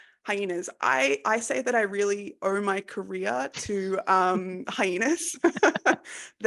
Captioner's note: laughs